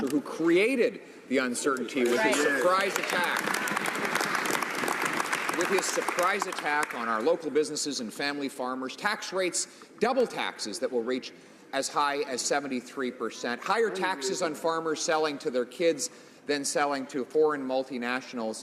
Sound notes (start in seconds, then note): 7.1 some Applause